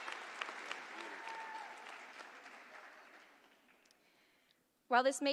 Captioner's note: applause